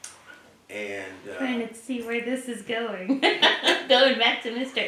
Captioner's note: laugh